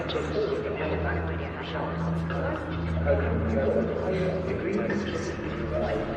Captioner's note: chatter continues